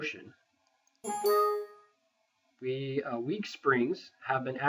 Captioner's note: warning window chimes